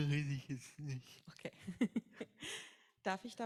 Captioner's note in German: beide lachen